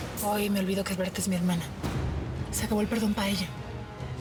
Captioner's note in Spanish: none